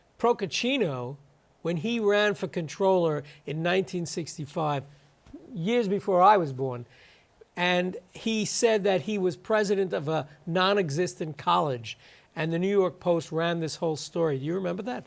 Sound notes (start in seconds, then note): none